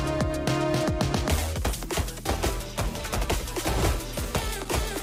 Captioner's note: weapons firing